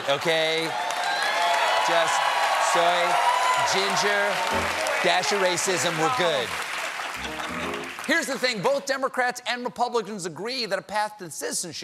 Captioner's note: cheers and applause